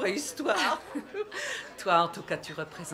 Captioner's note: laughing